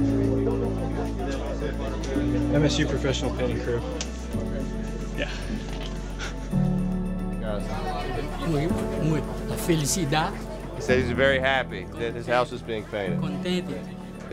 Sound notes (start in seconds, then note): 8.8 speaking Spanish